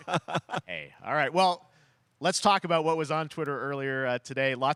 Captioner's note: laughs